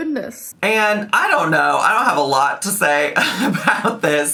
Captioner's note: laughs